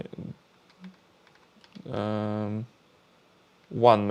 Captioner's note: keyboard clicking